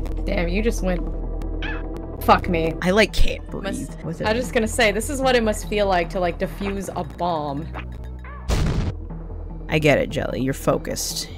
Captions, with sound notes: Damn you just went... F*ck me. I like can't breathe. I was just gonna say this is what it must feel like to like diffuse a bomb. *BOOM* I get it, Jelly, you're focused.